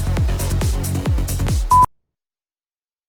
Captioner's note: beep